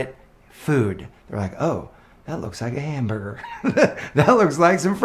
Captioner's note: laughs